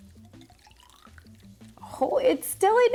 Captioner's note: water rattling